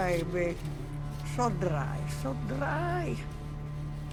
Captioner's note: Russian accent